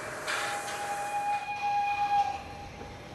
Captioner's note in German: Zugpfeifen